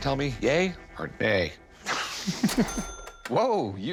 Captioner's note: laughs